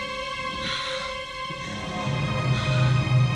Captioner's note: gasping